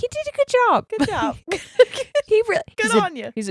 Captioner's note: laughs